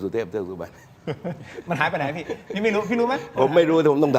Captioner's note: laughter